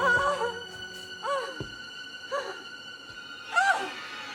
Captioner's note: Freddie whimpering